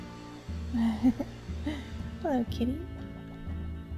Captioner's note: quiet giggle